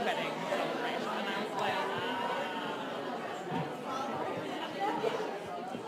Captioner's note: students chattering